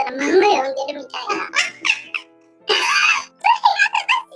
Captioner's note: laughs